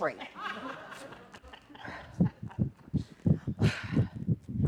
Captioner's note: laughter